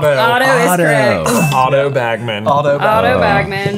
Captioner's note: bell ringing